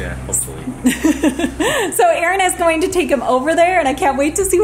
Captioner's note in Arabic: يضحك